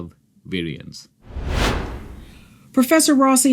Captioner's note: dramatic whooshing